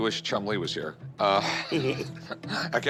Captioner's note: both laugh